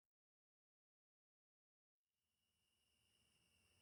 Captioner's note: day nature ambiance fades out; night nature ambiance fades in